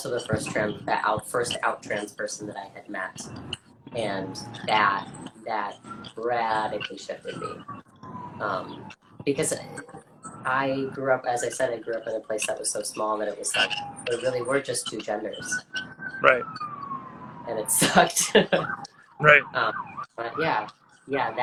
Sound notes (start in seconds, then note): 7.4 sirens blare in the background; 17.6 laughs; 17.7 sirens continue to blare